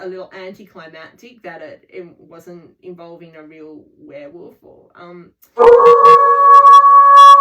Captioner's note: cut off by werewolf howling